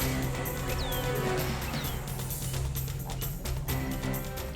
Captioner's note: thrilling music; bird chirping